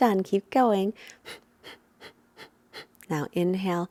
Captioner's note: exhaling loudly